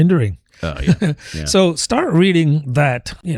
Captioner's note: uh